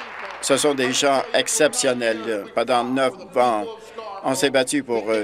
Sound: applause

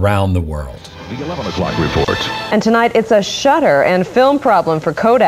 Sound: news voiceover

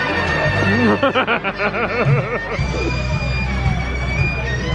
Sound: giggling

